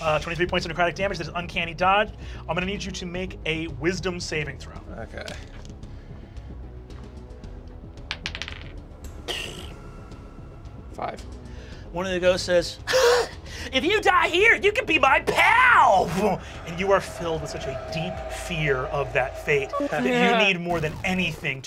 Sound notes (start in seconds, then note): 8.0 die clatters; 9.6 sighs; 13.3 laughs; 19.7 cries